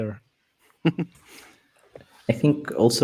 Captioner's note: laughs